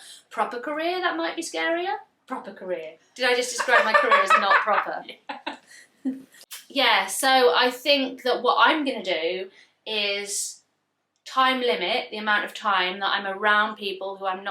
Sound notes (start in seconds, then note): 3.4 laughs